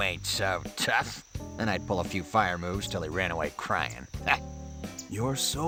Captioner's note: laughs